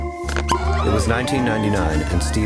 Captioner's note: partygoers cheering